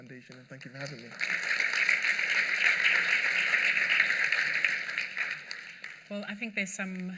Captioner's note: applause